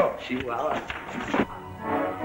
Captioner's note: Spanish spoken audio